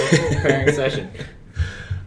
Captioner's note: laughs